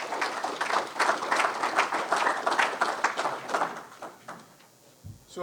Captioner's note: audience clapping